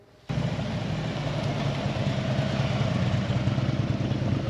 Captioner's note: engines roar